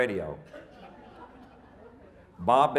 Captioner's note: audience laughing